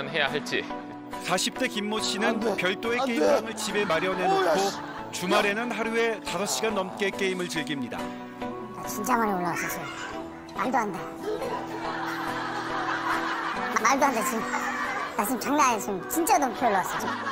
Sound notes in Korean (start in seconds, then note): 8.3 음성 변조음